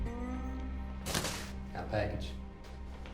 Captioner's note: tapping head; clatters